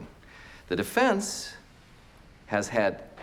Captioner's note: none